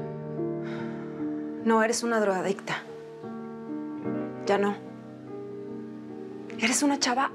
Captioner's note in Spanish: suspiros